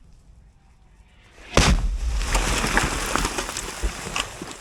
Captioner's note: explosion sound